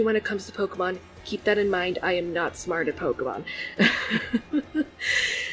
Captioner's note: laughs